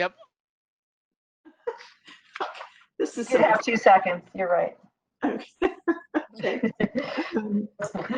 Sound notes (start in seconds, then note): 1.8 laughing